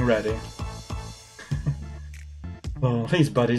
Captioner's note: chuckles